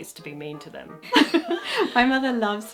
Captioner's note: laughing